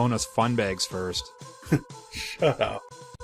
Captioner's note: chuckling